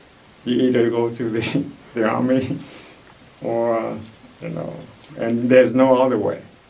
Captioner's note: laughs